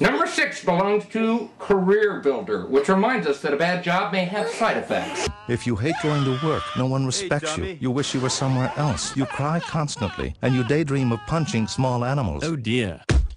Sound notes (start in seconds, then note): 9.0 laughing